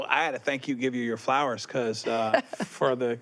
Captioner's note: laughs